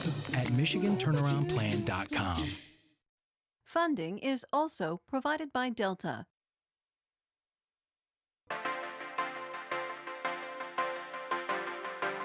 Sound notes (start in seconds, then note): 3.0 voiceover; 8.5 upbeat electronic music